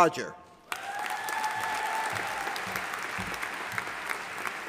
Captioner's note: audience applauding